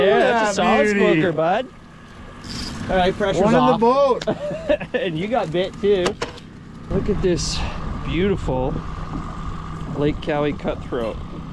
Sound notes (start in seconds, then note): 4.2 laughing